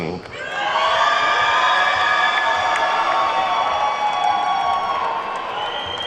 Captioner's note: attendees whooping and clapping